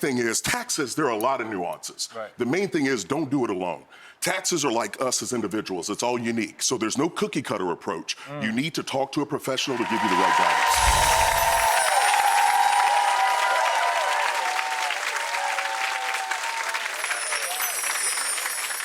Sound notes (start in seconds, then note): 9.6 audience cheering and clapping